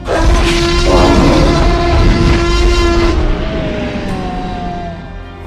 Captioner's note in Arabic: زئير تي ريكس